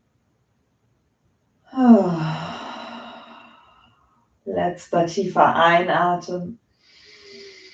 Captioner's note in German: seufzt